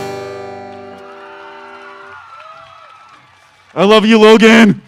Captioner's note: audience applause